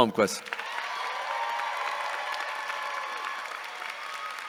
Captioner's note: audience cheering